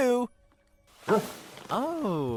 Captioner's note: barks